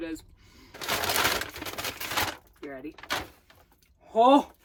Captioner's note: paper rustling